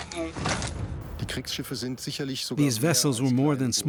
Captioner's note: speaking German